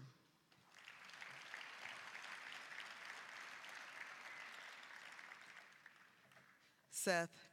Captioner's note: applause